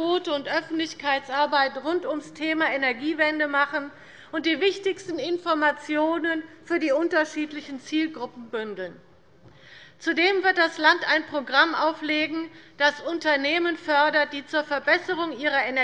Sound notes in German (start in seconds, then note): none